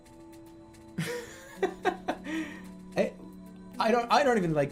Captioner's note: bursts out laughing